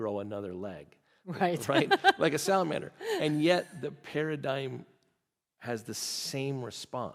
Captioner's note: laughing